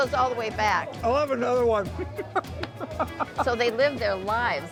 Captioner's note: laughing